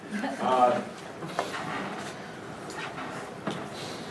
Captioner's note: students:laugh